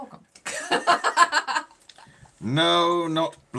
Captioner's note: laughing